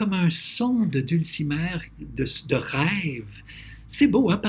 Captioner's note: translating in French